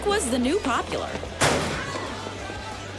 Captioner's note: locker slams